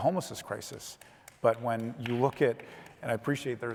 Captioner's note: audience member applauding